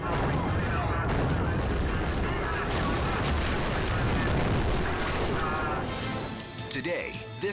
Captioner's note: boat crashing; water splashing